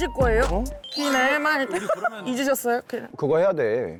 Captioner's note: sound effect recalling last year